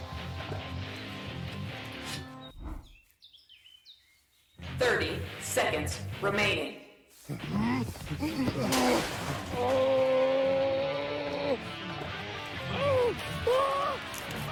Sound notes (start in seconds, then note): 8.6 metal crash; 12.0 flesh squelching